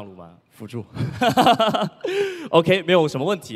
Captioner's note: laughs